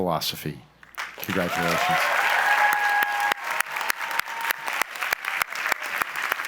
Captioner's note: audience applauds